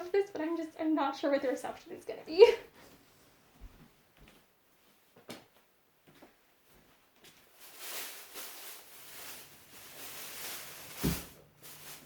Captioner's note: plastic bag rustling